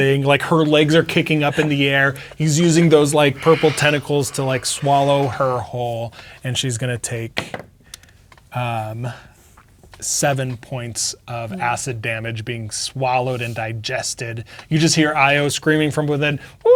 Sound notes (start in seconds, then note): 8.8 dice rolling